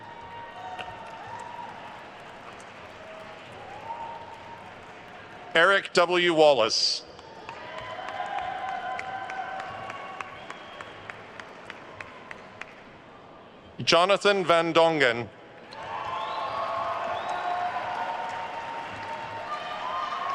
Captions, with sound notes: (attendees cheering and applauding) Eric W. Wallace. (attendees cheering and applauding) Jonathan Van Dongen. (attendees cheering and applauding)